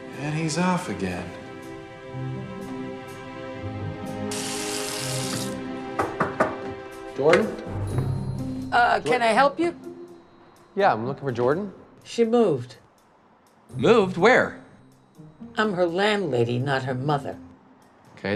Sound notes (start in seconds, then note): 2.2 suspenseful music; 4.2 faucet runs; 5.9 David knocks